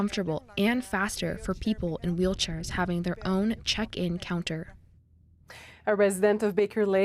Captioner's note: speaking Indigenous language